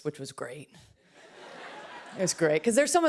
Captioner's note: laughter